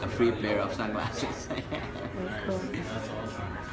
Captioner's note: laughing